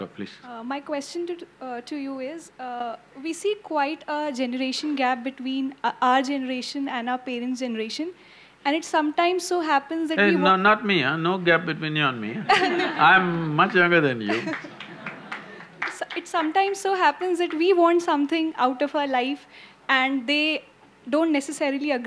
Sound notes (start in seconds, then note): 12.4 laughter; 14.3 few applaud